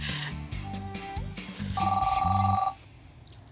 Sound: phone rings

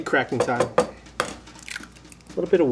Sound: board banging

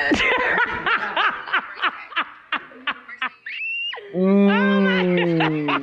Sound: person laughs

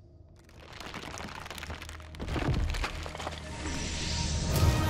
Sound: ground crackling; dramatic music begins

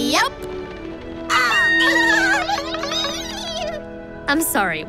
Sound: squeaking

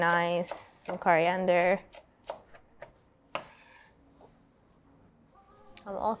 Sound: knife slicing parsley

